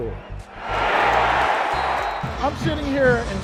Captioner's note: cheering